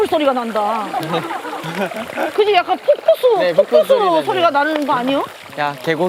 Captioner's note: ~ making water sound ~